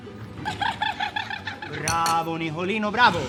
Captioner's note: laughing drunk